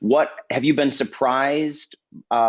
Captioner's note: none